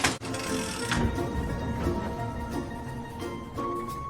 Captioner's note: door clanks; handle clicks